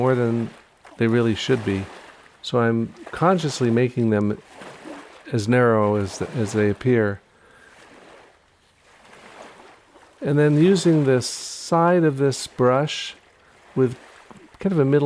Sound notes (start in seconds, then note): none